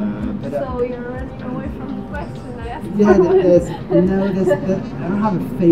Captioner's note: laughs